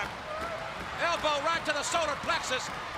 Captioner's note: crowd chatters